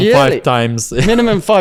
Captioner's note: laughs